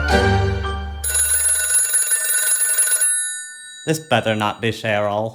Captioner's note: telephone ringing